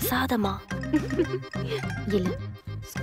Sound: giggling

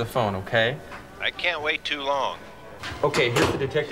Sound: on phone

